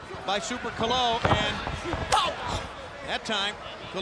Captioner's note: footsteps plodding; body thudding